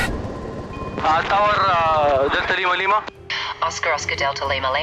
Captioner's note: radio operator speaking foreign language